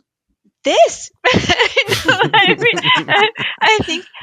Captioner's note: laughs